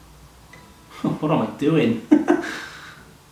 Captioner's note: laughs